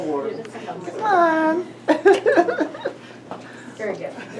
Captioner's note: laughs